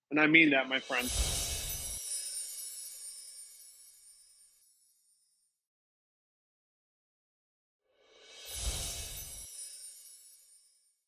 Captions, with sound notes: And I mean that my friend. [gentle chimes] [gentle chimes]